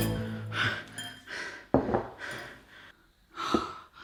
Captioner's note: pants